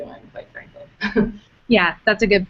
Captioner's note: chuckles